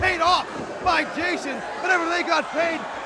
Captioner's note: crowd chatter